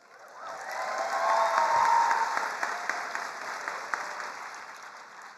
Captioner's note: attendees cheering and applauding